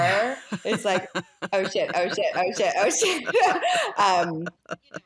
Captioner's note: laughs